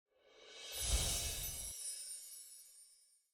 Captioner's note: bells chime